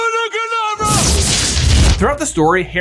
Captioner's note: spell crackling and booming